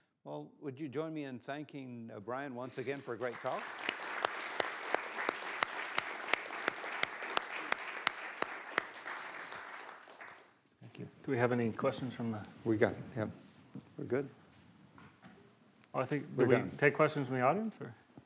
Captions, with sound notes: -Well, would you join me in thanking Brian once again for a great talk? [applause] -Thank you. Do we have any questions from the-? -We have. Him. You’re good? -Do we take questions and we answer?